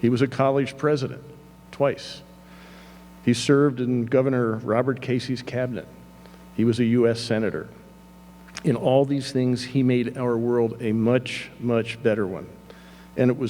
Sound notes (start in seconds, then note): none